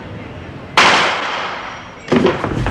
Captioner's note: gunshot